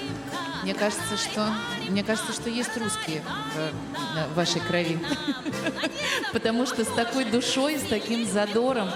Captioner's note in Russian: смех